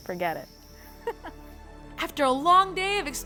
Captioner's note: laughs